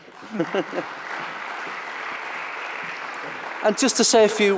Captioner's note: audience applauds